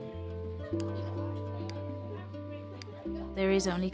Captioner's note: lights flicking